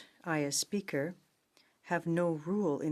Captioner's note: speaking in French